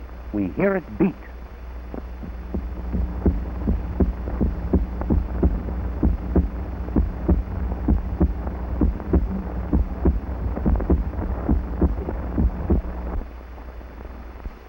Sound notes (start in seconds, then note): 1.9 heartbeat